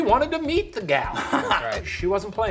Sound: laughing

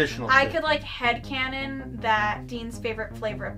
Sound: none

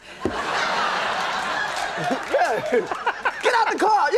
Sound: audience laughs

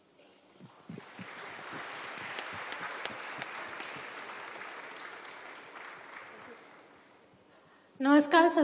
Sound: laughs; applause

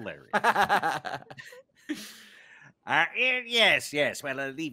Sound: laughing

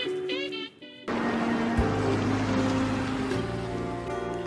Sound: sound of taxi moving

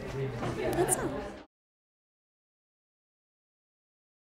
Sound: crowd chattering

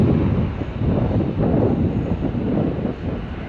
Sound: wind blowing

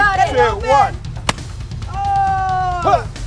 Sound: bangs

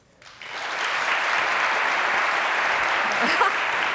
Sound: audience applauding; laughs

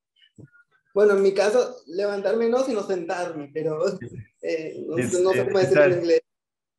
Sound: speaking in foreign language

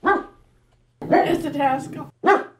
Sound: dog barks; dog barks

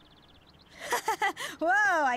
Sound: birds chirp; nervous laugh

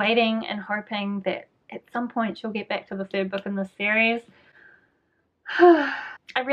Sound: sigh

